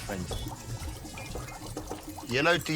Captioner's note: bubbling in the background